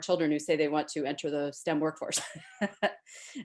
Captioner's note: laughs